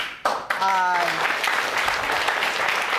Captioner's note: audience applauding